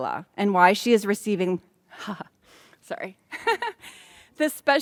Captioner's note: laughs